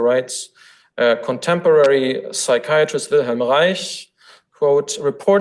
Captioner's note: foreign language